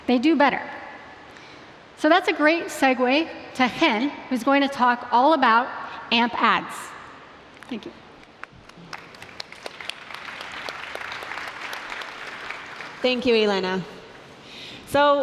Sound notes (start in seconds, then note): 8.4 applause